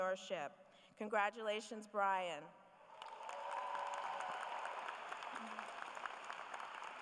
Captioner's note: applause